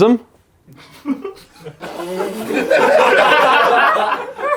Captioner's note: audience laughs